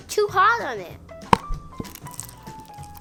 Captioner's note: lid pops off; beads clink together